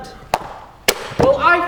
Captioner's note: book slams on knee